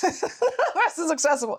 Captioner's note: laughs